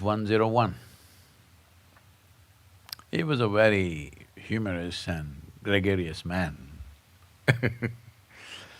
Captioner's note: laughs